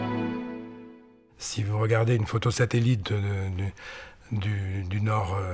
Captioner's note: French spoken audio